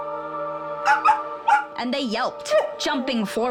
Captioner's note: wolf barks